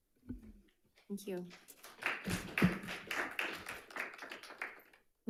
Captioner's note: audience clapping